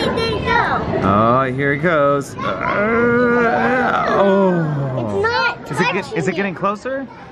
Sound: groans

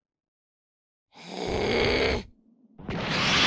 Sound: GOHAN growls

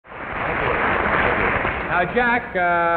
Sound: audience applause

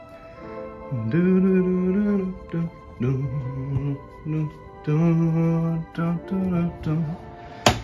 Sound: mindless humming

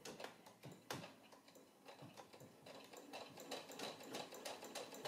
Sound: sewing sound

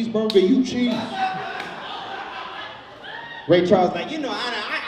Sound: audience laughs

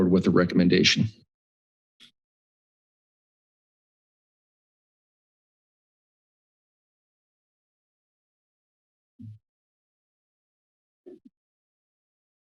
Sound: silence

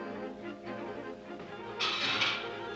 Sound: clattering

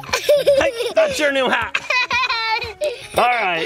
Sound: laughs

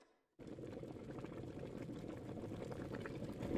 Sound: water boiling

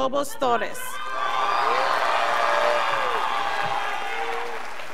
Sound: scholars applauding

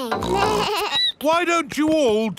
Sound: bleats; snorts

